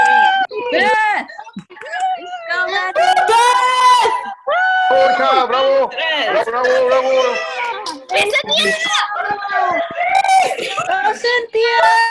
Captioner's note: cheering